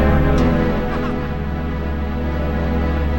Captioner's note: off-screen laughing